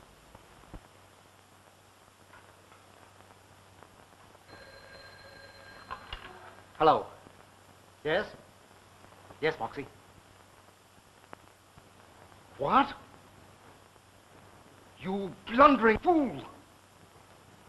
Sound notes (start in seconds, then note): 4.5 phone rings